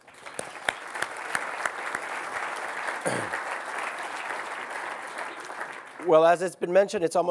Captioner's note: applause